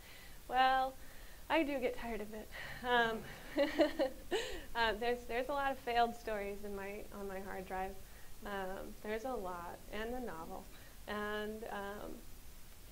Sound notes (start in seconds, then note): 3.2 laughs